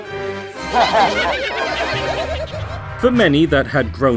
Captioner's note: monsters chattering